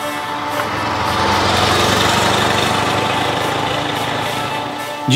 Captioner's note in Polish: muzyka i dźwięk jadącego samochodu